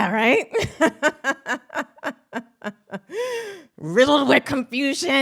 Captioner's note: laughs